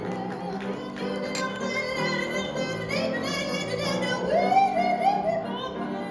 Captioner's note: automatic applause